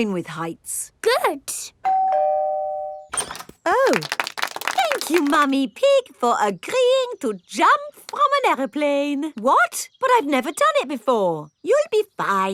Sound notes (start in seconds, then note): 1.9 doorbell ringing; 3.8 crowd applauding